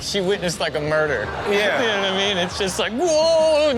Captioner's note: audience laughing